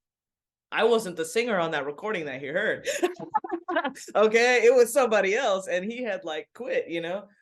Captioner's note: laughs